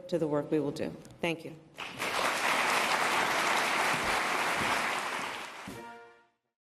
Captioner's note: applause